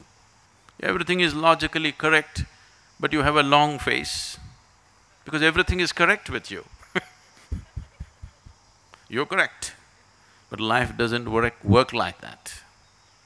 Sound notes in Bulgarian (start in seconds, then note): 6.8 Смее се